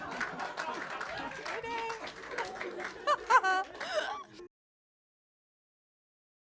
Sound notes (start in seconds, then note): 0.0 crowd clapping; 0.0 crowd laughing; 3.0 laughing